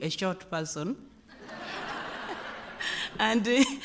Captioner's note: laughter